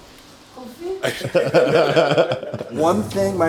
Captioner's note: everyone laughing